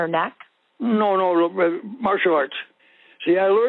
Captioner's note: over the Phone